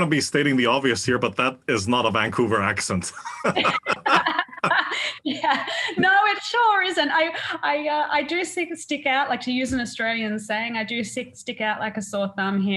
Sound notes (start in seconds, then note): 2.8 laugh